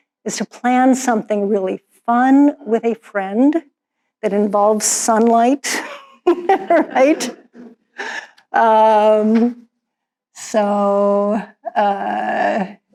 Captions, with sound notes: is to plan something really fun with a friend that involves sunlight. (laughs) So, yeah.